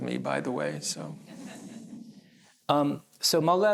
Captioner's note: laughter